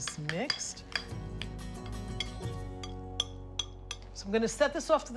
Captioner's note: spoon clinking